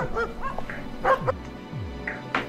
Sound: dog Barking Stops

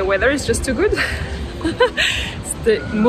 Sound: laughs

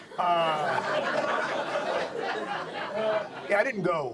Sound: audience laughs

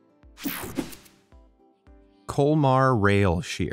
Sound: air whooshing

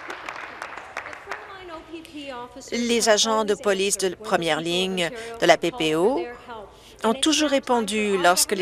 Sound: applause

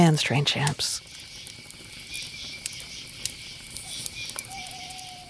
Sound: bugs chirping

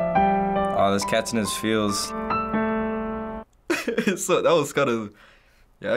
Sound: chuckles

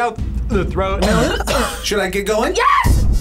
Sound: coughs

